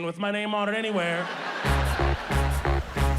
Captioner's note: audience laughing; upbeat instrumental music